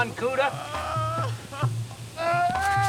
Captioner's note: man crying